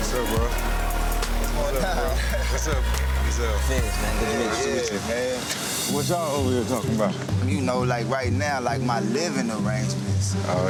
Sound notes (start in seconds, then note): 1.9 person laughing; 6.9 energetic string music